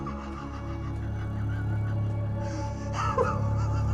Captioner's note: laughs